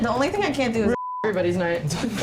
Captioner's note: beep; laughs